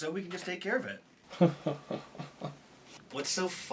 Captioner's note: dry Laugh